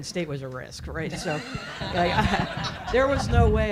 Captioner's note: audience laughing